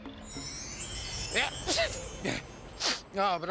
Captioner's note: sneeze